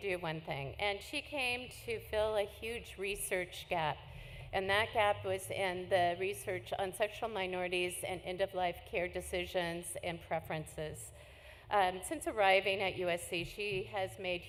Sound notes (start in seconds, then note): none